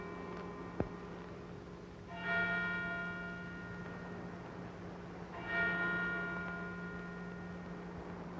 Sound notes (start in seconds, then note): 2.7 church bell ringing